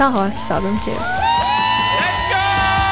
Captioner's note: crowd cheering